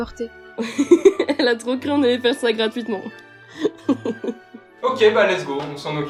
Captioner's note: laughs